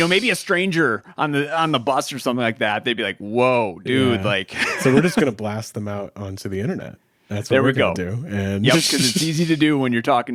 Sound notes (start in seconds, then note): 4.0 laughs